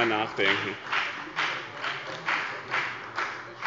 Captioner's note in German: Lebhafter Beifall bei dem BÜNDNIS 90/DIE GRÜNEN und der SPD